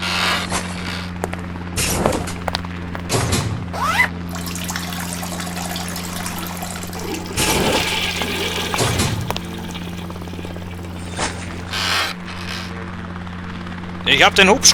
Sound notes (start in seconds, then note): 7.3 toilet flush